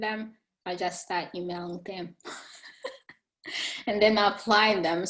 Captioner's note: chuckling